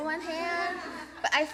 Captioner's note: laughter